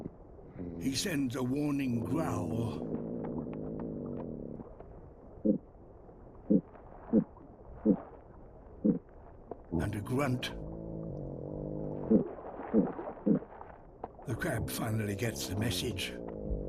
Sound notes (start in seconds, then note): 0.0 grunts; 1.8 growls; 5.2 grunting; 11.6 grunting